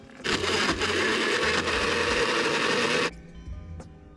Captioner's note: sound of blender grinding